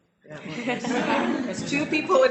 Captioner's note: audience laughing